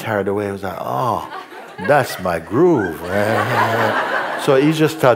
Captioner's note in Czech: smích